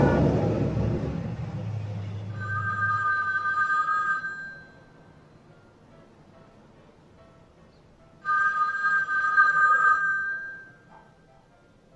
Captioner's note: phone ringing